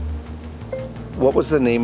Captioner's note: Siri dinging